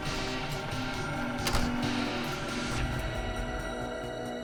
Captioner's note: door clicks; mysterious music